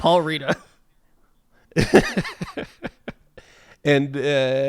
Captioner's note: laughs